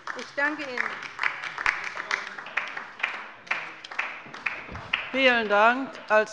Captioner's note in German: Beifall bei der LINKEN